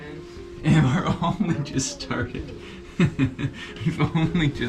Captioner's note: laughing